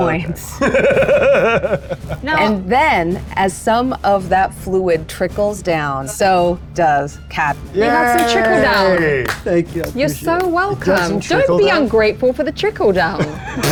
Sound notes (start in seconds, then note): 0.6 laughs; 13.0 group laughs